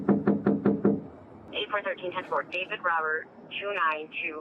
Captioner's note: radio chatter